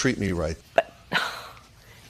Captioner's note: sighs